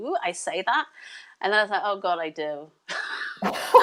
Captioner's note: both laugh